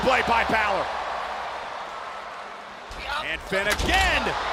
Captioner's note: crowd cheering